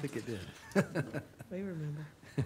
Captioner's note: people laughing